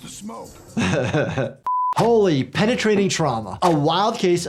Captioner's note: laughs